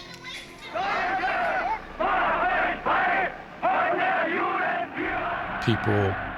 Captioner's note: shouting